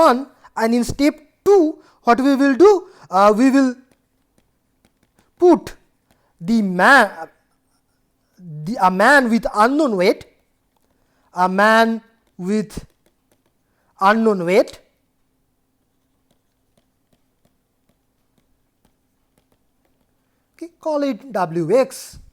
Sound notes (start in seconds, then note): 10.8 stopwatch